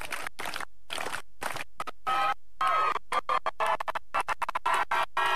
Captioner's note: audience cheering and applauding